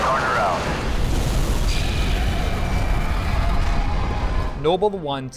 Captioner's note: explosions